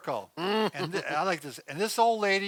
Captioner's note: laughs